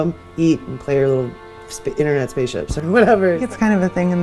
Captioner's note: laughs